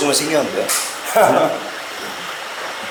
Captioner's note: haha